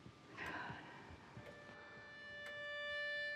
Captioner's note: clock ticking; gentle music